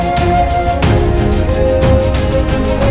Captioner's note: Mouthing